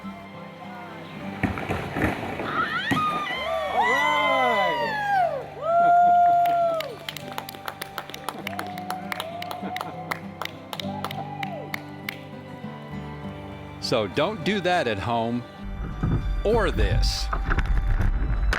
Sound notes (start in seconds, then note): 10.0 cheers and applause